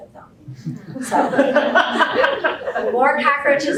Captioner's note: laughter